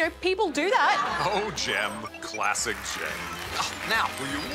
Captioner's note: applause